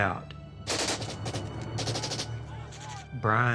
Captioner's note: gunfire